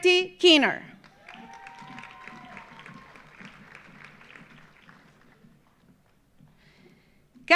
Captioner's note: audience cheering; audience applauding